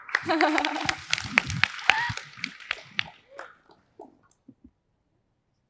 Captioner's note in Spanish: Aplaudir